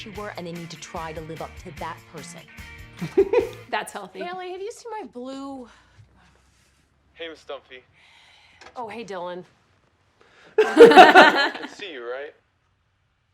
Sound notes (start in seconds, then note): 3.0 chuckles; 10.6 both laugh